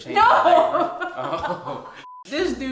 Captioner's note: laughs